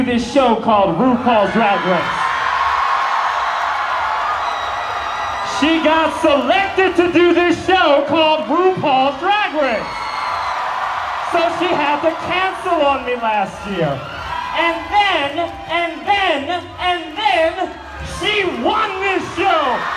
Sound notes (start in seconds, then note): 3.7 cheering